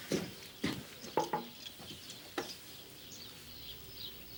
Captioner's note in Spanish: batendo na porta